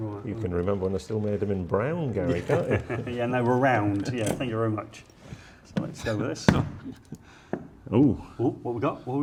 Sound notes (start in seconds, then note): 2.3 laughing; 6.9 box popping